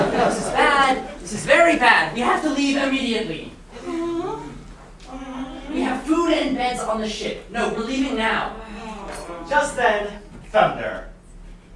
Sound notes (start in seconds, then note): 3.6 sailors whimpering and complaining